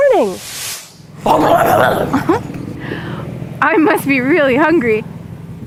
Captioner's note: a loud gurgling is heard